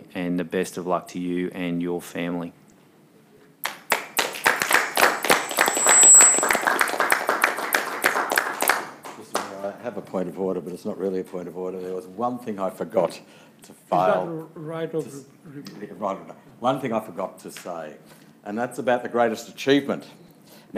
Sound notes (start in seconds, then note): 3.6 group applauding